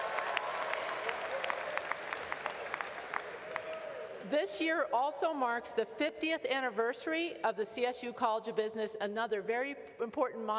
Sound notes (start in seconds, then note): 0.0 applause